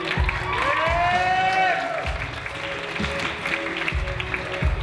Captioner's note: audience cheers and applauds